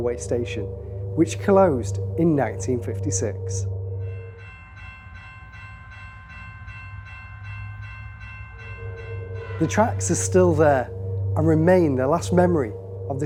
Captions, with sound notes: railway station, which closed in 1956. (train bell rings) The tracks are still there and remain the last memory